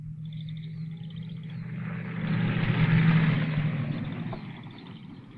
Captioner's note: engine rumbling